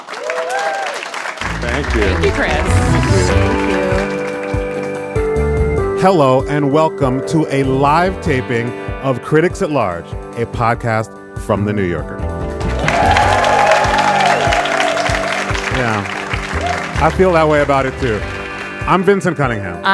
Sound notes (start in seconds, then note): 0.0 audience clapping; 3.9 bright music; 12.6 audience clapping